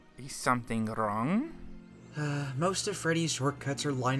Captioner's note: none